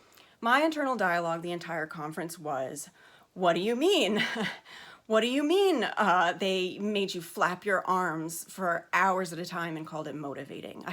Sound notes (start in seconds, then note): 3.0 sharp inhale; 4.1 anxious laugh